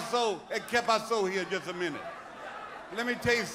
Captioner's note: speaking in foreign language